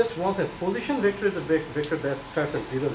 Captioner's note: speaks softly